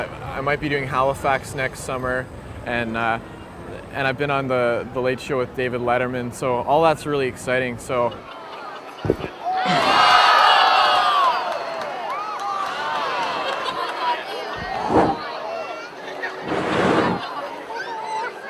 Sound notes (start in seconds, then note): 13.1 audience laughing